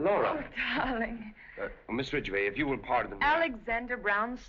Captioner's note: russian Accent